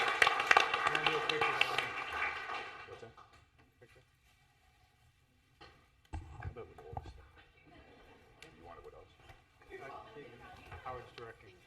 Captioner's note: applause